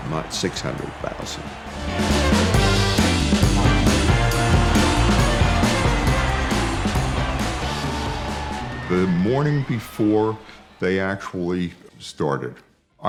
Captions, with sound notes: not 600,000. (upbeat rock music) (crowd cheering) - The morning before they actually started,